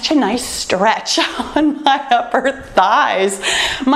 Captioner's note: laughs